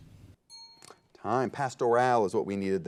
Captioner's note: ding